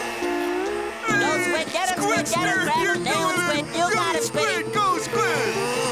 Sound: cheering; buzzing

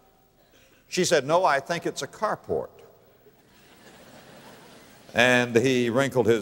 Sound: audience laughter

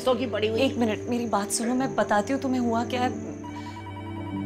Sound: phone ringing

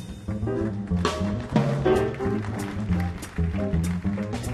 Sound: audience applauding

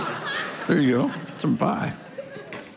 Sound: congregation laughing

